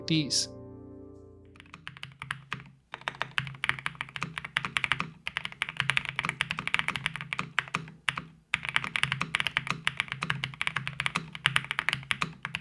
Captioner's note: keyboard typing